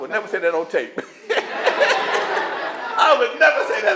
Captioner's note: laughter